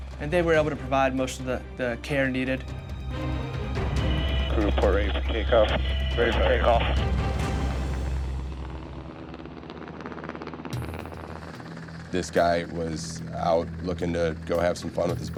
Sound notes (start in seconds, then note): 8.5 helicopter blades whirring; 12.2 upbeat music